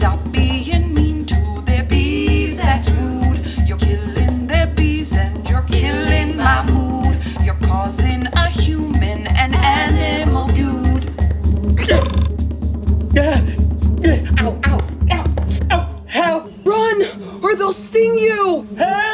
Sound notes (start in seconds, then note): 11.8 grunts; 11.9 bees buzzing